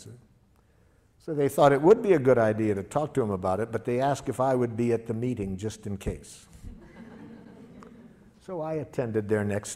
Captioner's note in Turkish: Gülüşmeler